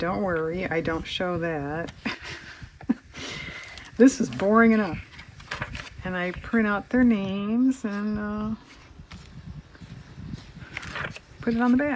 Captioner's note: laughs